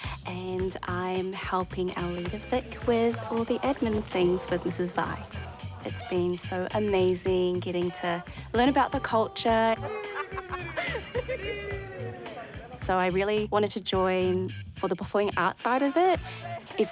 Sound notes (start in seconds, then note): 9.8 laughter